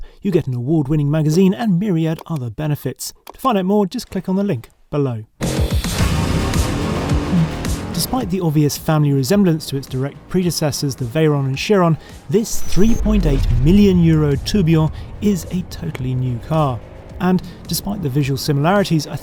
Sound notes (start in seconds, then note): 5.9 energetic music; 6.1 car engine revving